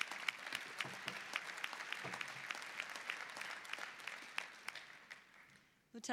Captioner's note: applause